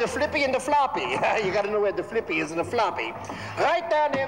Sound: chuckles

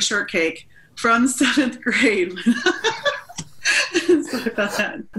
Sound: laughs; chuckling

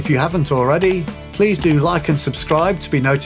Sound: computer mouse clicks

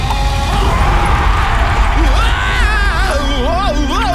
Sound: screams; roars

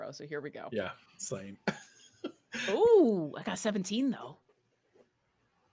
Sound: laughs

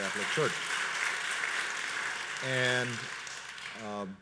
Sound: audience applauds

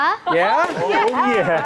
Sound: overlapping exclamations

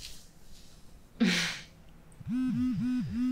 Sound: cell phone buzzes

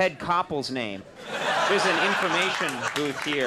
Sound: audience laughing

